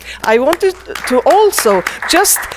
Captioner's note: attendees applaud